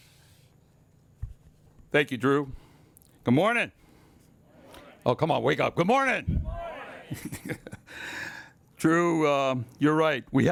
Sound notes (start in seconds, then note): 6.8 laughs